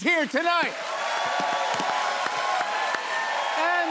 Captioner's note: cheers and applause